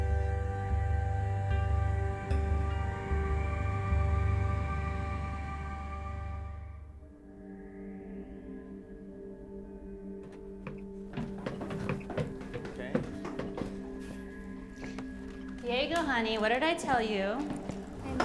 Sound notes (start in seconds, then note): 7.4 light dramatic music; 10.2 footsteps thudding